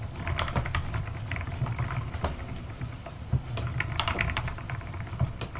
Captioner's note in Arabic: صوت قعقعة العجلة